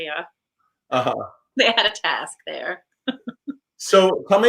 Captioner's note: laughs